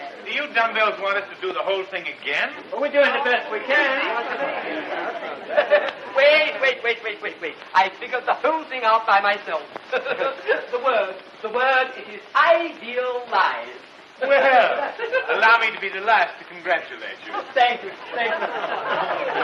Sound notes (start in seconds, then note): 5.2 murmuring